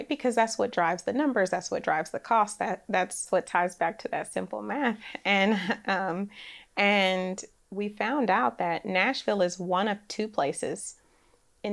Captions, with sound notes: Because that's what drives the numbers. That's what drives the cost. That's what ties back to that simple math. (laughs) And we found out that Nashville is one of two places